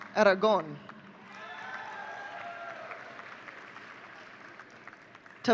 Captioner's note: audience cheering